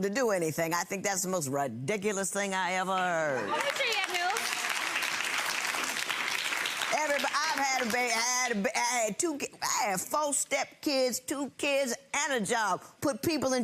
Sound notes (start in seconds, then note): 6.0 audience applauding